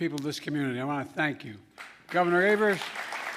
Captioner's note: applause